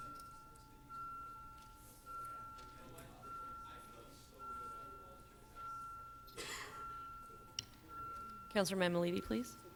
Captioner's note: off microphone